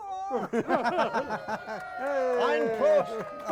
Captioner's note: hosts laughing; audience cheering; speaking German; singing in foreign language